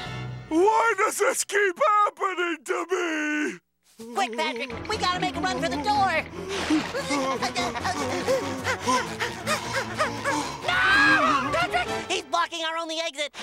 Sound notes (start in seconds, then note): 6.5 panting; 10.2 shrieking